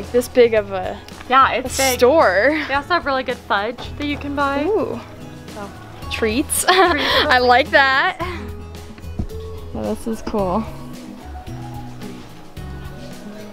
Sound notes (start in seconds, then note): 6.6 laughs; 10.7 light music